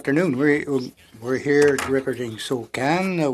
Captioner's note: speaking French